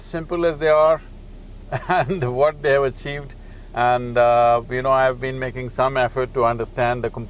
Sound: laughs

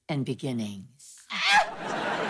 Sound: yelping

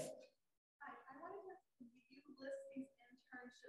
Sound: voice muffling

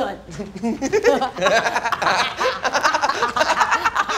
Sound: both laughing

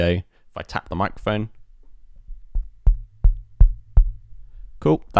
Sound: microphone tapping

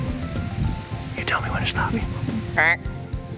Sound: whispering

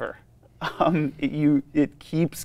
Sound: laughs

